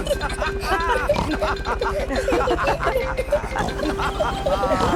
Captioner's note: all laughing and snorting